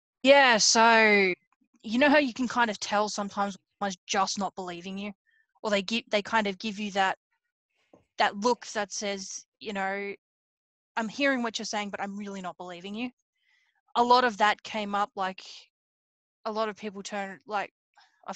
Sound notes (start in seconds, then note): none